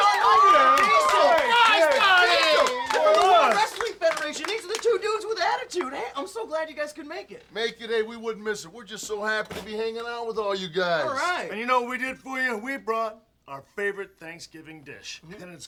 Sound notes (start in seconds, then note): 0.0 group cheering